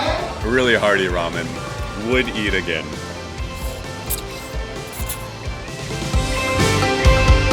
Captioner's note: massively distorted loudspeaker; slurps